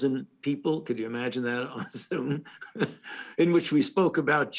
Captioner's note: laughs